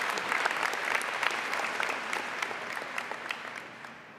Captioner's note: applause